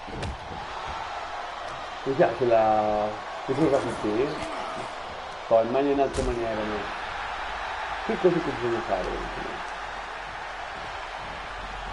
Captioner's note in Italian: Applauso